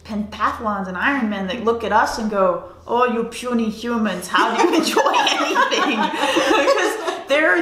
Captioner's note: laughter